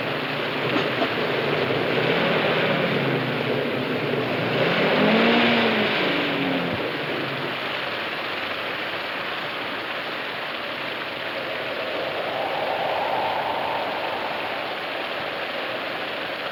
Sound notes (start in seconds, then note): 12.7 wind blowing